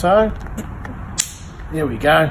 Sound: loud click sound

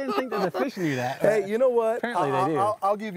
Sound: both laughing

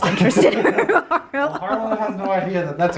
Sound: laughs

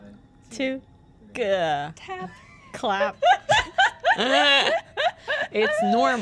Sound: laughter

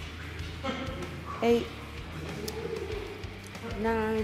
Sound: laugh

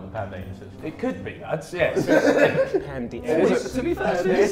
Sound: JJ laughs

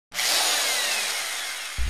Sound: drilling Noise

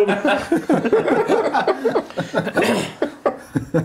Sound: laughing

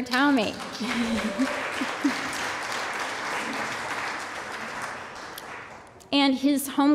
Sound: applause

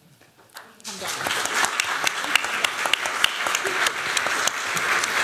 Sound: applause

